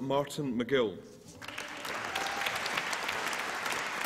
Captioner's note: applause